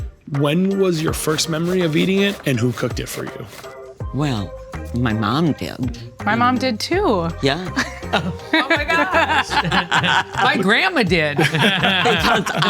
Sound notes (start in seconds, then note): 7.7 laughing; 7.7 laughs; 11.4 group laughing